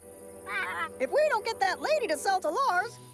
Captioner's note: squawking